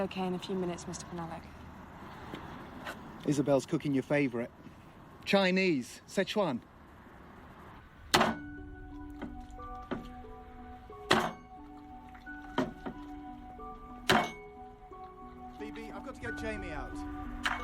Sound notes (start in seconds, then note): 8.1 cleaver thuds repeatedly; 12.3 eerie music playing